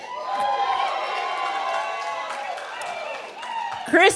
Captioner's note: cheering